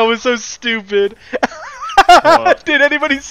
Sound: more laughing

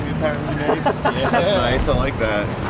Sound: laughing

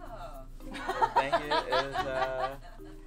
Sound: laughing

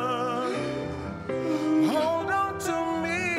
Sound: Ryan crying

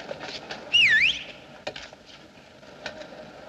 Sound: whistles Loudly

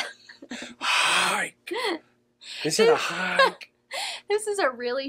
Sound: imitates Stacy

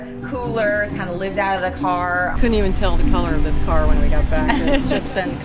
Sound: laughing

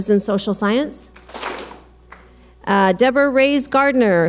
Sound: clap smack

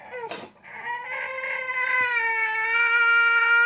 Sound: baby crying

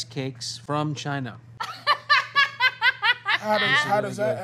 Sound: laughing

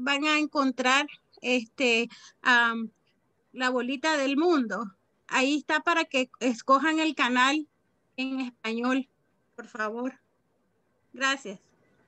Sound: speaking Spanish

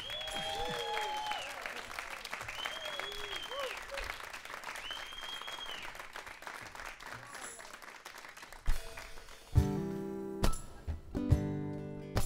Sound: applause

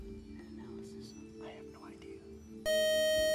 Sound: time-out buzzer

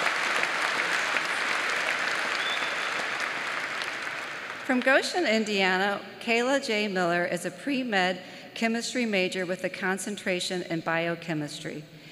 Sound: applause

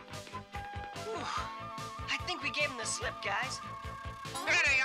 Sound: sighs

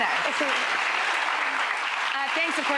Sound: audience applauding

